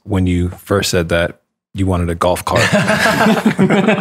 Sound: laughter

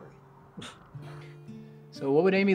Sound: all chuckle

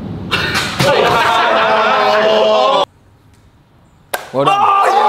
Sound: group laughs nervously

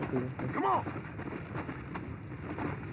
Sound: horse galloping

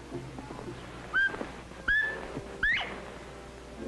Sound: bobwhite call

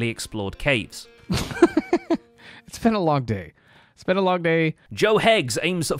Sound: chuckles

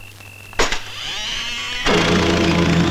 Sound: door creaks

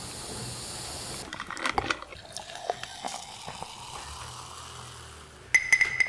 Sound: hiss; pouring

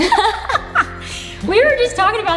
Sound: all laugh

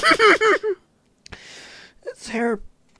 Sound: seethes

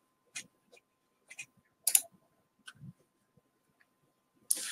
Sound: mouse clicking

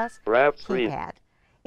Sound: electronic tones

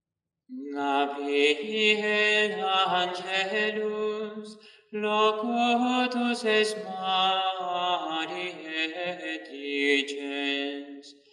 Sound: chant

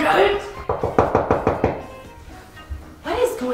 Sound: knocking

